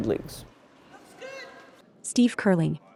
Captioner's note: curler shouts